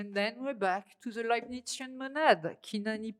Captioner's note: speaking french